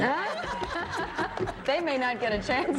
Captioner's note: laughter